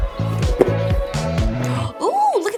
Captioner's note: box clinks